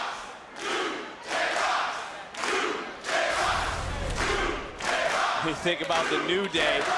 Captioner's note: crowd chants "new day rocks"